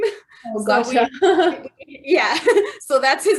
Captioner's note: laughter